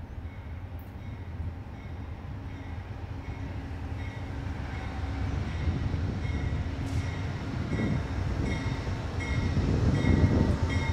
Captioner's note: wind blowing